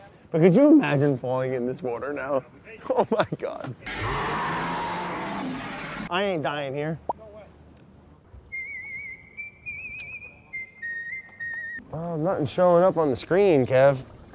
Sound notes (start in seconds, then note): 3.8 animal growling; 8.4 recorded whistling